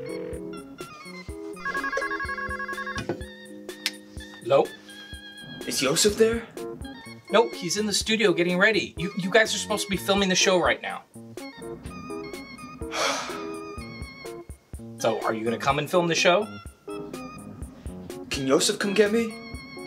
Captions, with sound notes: Hello? Is Yosef there? No, he's in the studio getting ready You guys are supposed to be filming the show right now [Sigh] So are you gonna come and film the show? Can Yosef come get me?